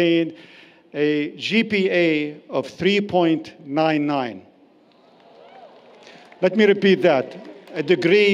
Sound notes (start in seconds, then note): 4.8 cheering